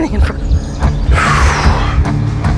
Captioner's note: exhales